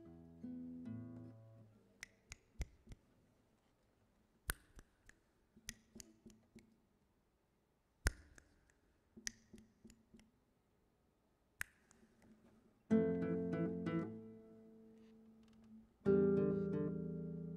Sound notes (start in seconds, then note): 0.2 guitar strumming; 2.1 fingers snapping; 12.9 peaceful music